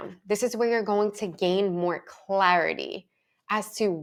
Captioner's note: none